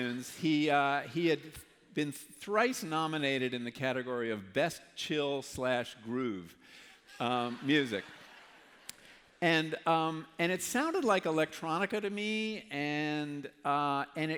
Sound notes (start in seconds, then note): 8.6 laughter